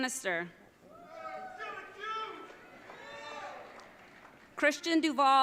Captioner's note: audience cheering